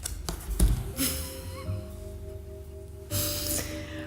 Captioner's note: laughing